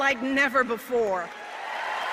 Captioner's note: applause